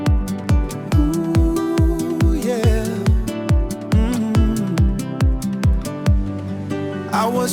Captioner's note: mmm, mmm